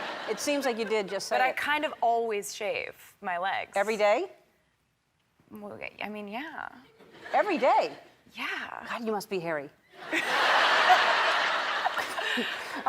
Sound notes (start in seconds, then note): 6.9 crowd members laughing; 10.0 and the crowd laughing hysterically